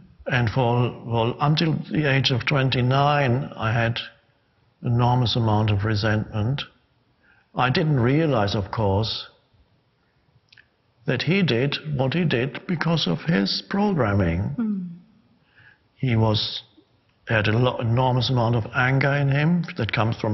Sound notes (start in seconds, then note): none